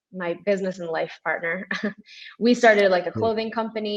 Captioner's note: chuckles